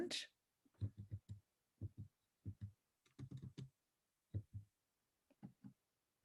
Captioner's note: keyboard tapping